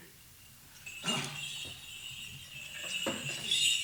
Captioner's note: jingling